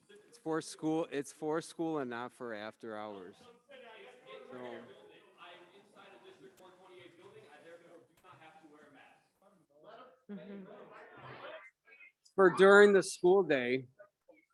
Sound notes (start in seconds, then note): 4.0 speaker speaks in a low tone